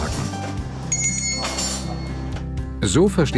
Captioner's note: ring